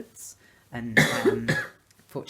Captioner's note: coughing